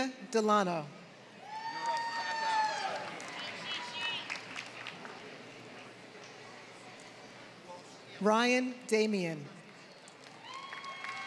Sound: applause

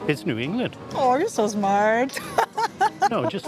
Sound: laughs

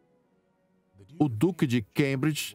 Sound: voiceover

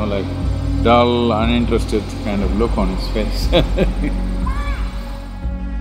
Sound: laughs

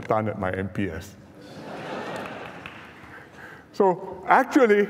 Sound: laughter

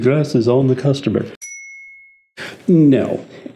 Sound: bell dings

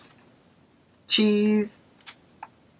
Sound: click

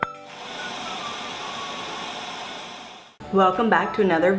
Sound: static

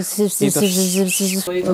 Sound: imitates old people's sibilance

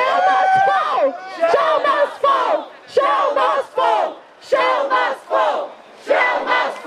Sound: Crowd chants 'Shell must fall!'

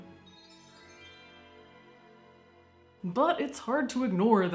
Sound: cheerful twinkling

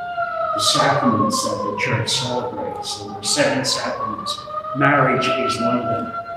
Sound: siren

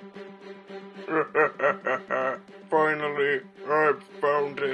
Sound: evil cackle again

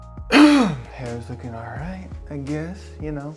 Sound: coughs

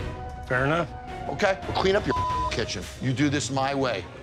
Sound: beep

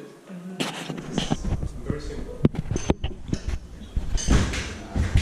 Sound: microphone static

